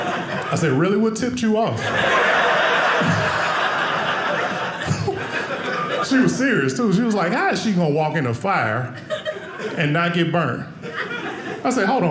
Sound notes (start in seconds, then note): 1.6 audience laughing